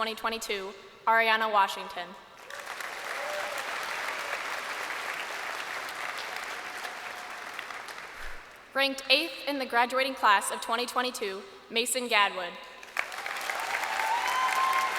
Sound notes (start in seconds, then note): 4.3 crowd applauding